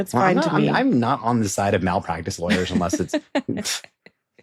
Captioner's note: laughs